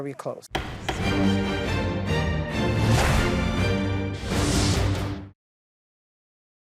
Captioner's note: gavel banging; dramatic music